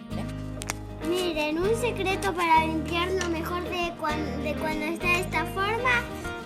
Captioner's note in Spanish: voz de niño